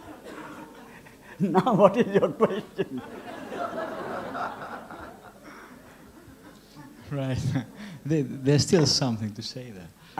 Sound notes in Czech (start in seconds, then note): 5.7 smích